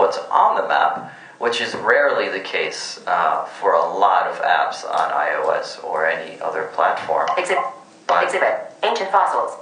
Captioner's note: phone speaking commands